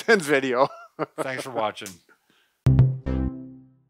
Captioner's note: laughs